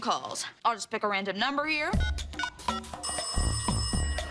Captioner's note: dialing sounds, phone ringing